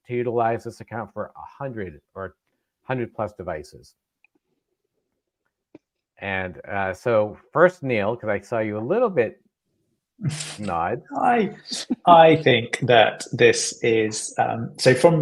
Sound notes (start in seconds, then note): 11.1 laughing